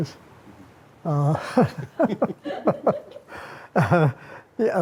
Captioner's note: all chuckle